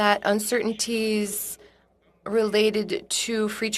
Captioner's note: speaking French